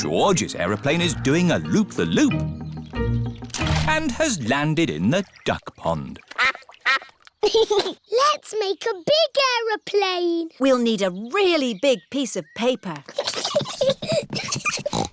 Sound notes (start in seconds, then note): 6.3 quacking; 7.4 giggles; 14.6 snorts